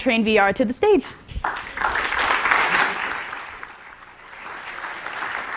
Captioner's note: applause